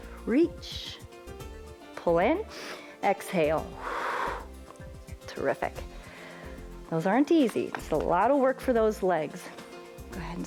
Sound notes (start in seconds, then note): 3.7 exhales